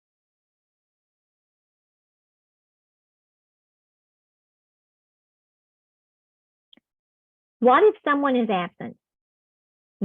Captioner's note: silence